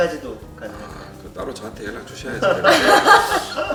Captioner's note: laughs